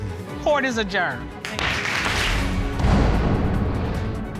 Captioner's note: pounds gavel